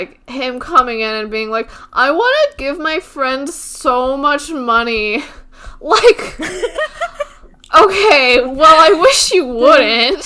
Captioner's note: both laugh